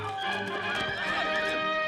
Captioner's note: horse whinnying